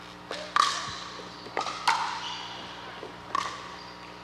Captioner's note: ball bouncing